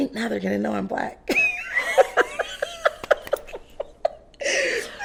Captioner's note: both laughing